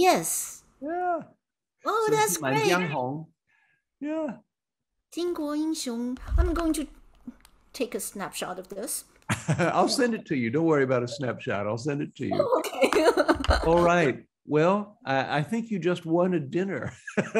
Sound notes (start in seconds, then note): 3.6 speaking in Mandarin; 14.0 laughing; 16.8 both laughing